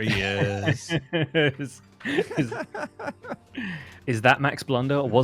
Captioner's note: laughs